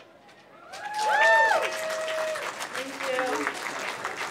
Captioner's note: applause